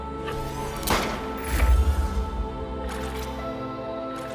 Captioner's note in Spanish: Disparo